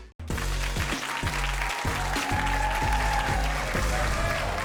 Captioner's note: audience clapping